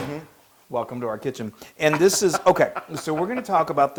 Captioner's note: laugh